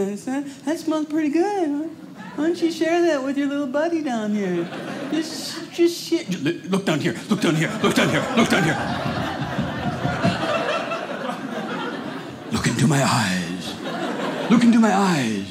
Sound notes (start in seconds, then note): 9.7 audience laughing; 15.3 audience laughing